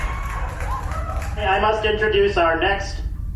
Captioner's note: audience laughs